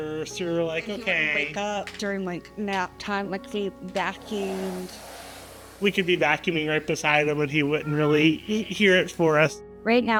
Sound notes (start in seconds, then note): 3.8 vaccum Rumbling